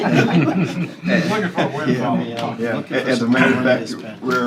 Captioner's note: laughter